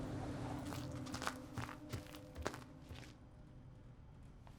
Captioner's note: popcorn crunching